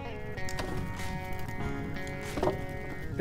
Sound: wood fire burning

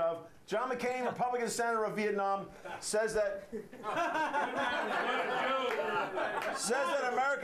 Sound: laughter

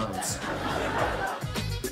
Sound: audience laughs

